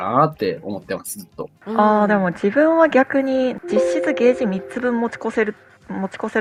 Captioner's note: windows OS sound